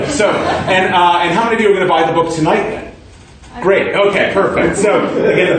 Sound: laughter

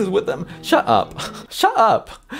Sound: laughs

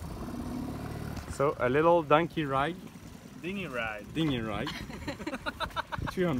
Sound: laughing

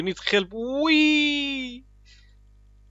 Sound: WEEEE noises

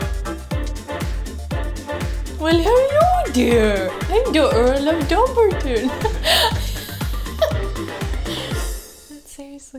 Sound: in a silly voice

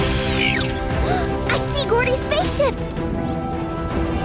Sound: gasping

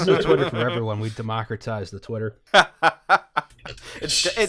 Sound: laughter

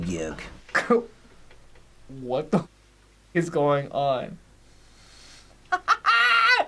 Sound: laughs

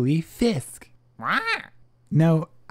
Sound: squawk

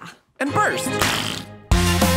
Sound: wet, fleshy explosion

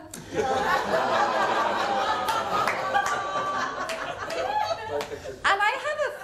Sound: audience groans and laughs

